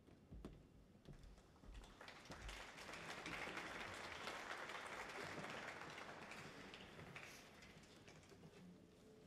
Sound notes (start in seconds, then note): 1.9 audience applauds